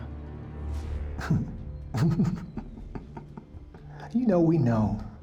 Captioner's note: laughing